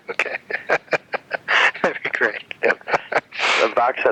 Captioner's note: laughing; laughs